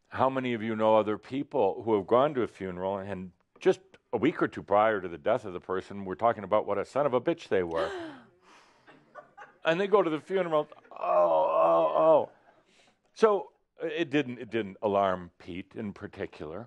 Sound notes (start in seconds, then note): 7.8 gasps; 13.2 as if crying